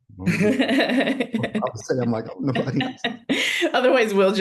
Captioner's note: chuckles